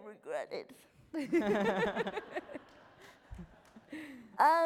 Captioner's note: laughing